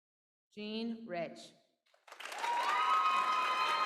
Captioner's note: applause